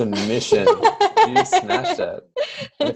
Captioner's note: laughter